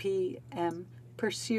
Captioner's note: speaking French